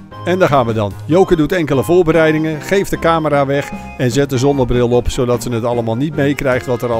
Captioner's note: voiceover